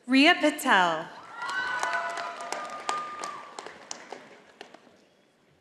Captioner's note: audience applauding